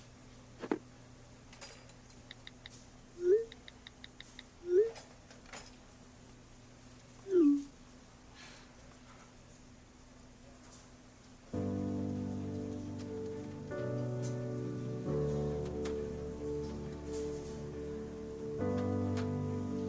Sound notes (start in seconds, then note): 0.6 soft thud; 2.3 tapping sound, message alert; 8.4 chuckles; 12.4 dramatic music